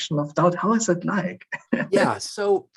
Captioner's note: chuckles